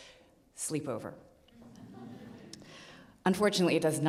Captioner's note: audience laughs